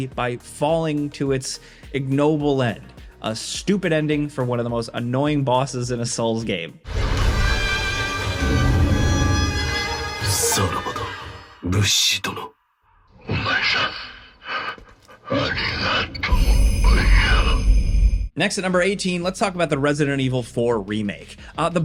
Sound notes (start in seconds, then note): 6.8 dramatic music; 6.9 Demon of Hatred roaring; 10.3 Sekiro speaking in foreign language; 13.2 Demon of Hatred speaking in foreign language